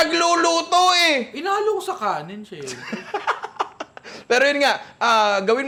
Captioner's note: laughs